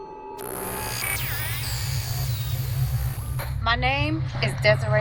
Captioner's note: static crackling